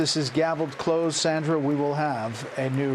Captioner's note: applause